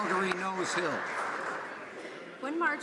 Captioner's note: some Applause